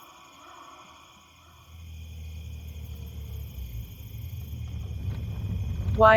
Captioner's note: car approaching